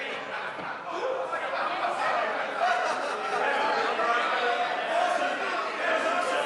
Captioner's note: members laugh and shout